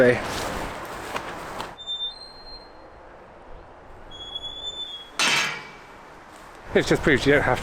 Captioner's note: gate opening and closing